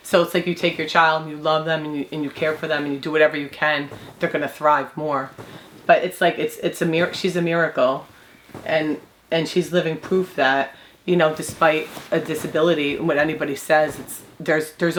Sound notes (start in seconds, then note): none